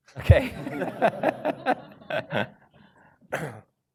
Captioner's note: laughter